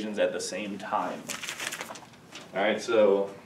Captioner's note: papers shuffling